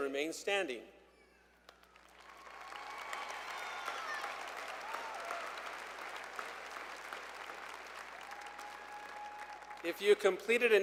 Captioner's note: applause